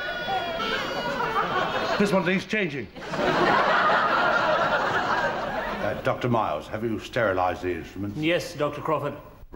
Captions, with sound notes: - This one needs changing. (audience laughs) - Doctor Miles, have you sterilized the instruments? - Yes, Doctor Crawford.